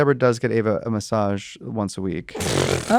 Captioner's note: scoffs